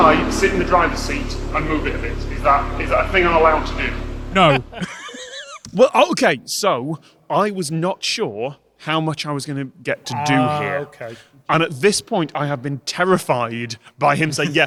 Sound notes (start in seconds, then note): 4.9 wheezes